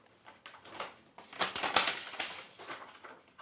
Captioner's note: none